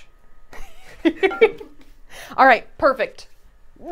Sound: laughing

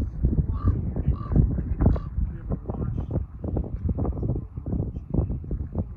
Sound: wind blowing/crows cawing

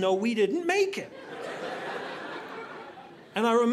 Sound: audience laughing

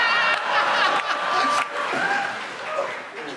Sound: laughs

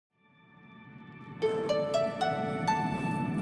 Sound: logo chiming

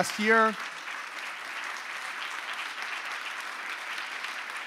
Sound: audience applauding

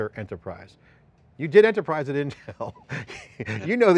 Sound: laughing

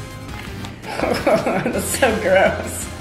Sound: laughs

